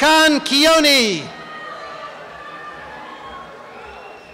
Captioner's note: cheering and applause